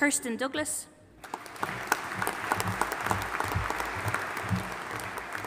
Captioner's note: audience applauding